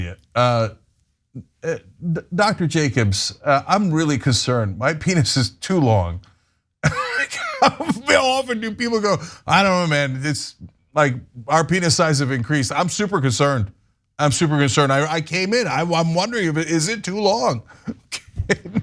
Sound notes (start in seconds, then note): 6.8 laugh